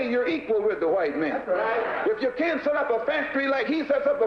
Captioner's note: voiceover